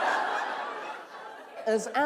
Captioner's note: laughter